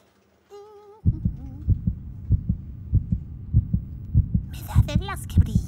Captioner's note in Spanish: latidos